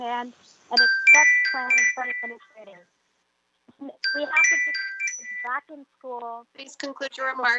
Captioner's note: chime